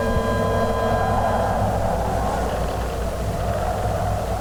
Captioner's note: wind howling; eerie music